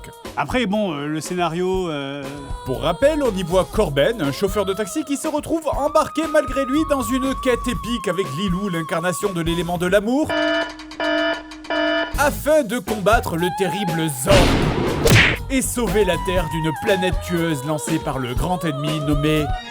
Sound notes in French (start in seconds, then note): 10.2 bruits d'alarme